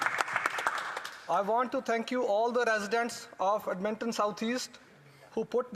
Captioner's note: applause